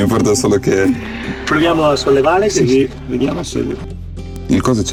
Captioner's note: speaking Italian